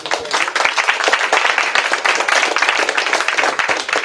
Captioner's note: applause